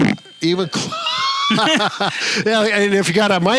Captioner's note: laughs